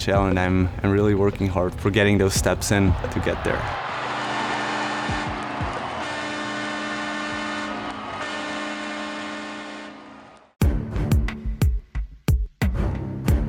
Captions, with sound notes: and I'm really working hard for getting those steps in to get there. (crowd cheering) (buzzer buzzing) (upbeat music)